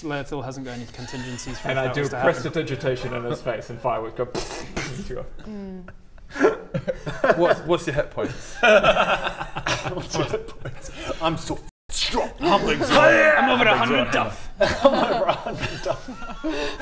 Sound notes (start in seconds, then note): 0.7 belittling laughter; 4.7 pftfptppffffpt